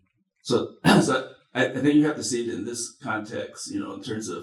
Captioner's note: coughs